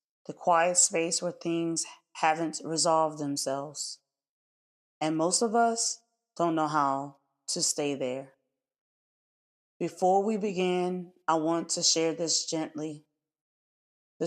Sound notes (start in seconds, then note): 4.1 pause